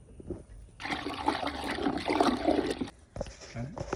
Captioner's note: sloshing Water